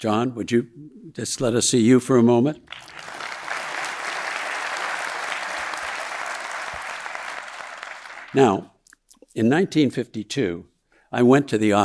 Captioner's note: audience applauding